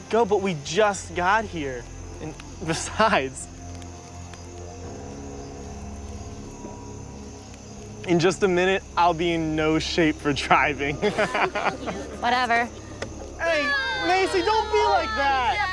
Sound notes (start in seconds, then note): 10.6 group laughs